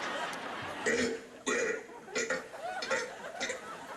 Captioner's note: burping